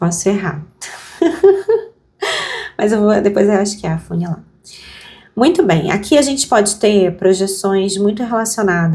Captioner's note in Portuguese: risadas